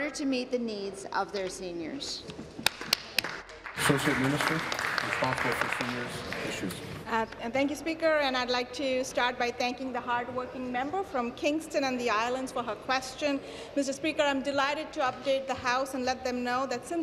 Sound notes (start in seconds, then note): 5.5 applause